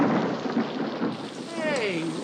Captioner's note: thunder rumbling